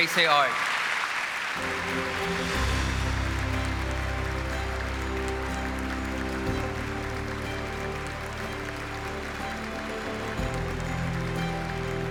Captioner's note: applause